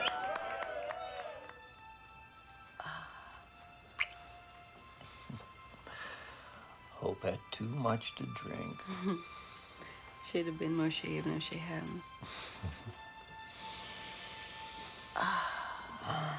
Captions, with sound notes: - Hope had too much to drink. - She'd of been more shamed if she hadn't. (Mark chuckles)